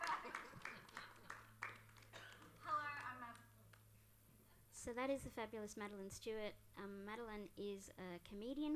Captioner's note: applause